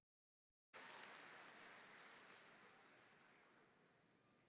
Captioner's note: audience applauding